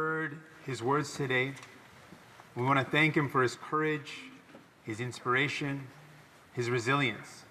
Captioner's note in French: voix de l'interprète